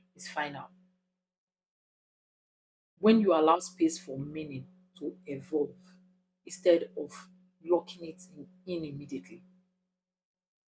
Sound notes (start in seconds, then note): 5.9 paause